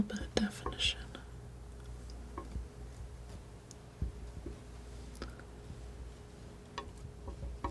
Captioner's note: tapping